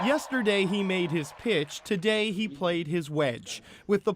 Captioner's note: cheers and Applause